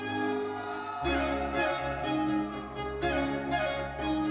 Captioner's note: lively uplifting music continues; audience cheering